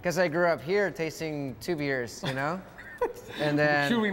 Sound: laughs

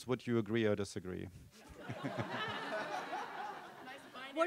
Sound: laughter

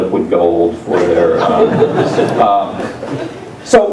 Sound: laugh

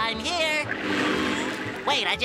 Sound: buzzing

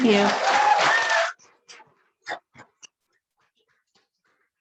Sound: audience clapping

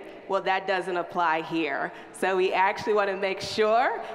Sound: none

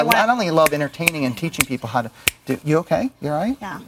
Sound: finger snaps

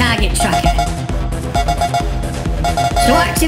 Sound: drone bleep noises

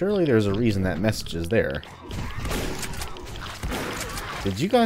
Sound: shotgun blasting

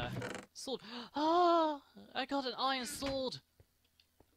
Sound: gasp

